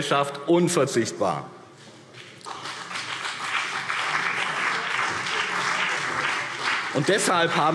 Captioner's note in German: Beifall BÜNDNIS 90/DIE GRÜNEN und vereinzelt CDU